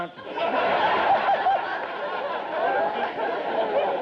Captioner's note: audience laughter